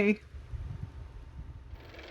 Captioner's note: car motor